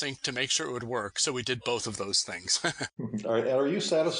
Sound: laughs

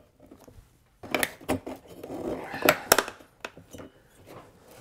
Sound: metal squeaking

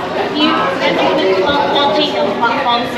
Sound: crowd Chattering

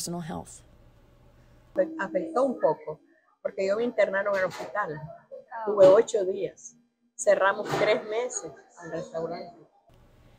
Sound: in Spanish

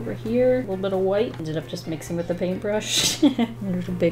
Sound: laughs

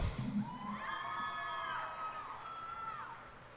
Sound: cheers and applause

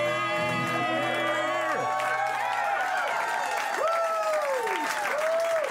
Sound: cheers and applause

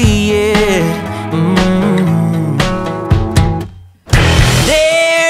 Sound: humming

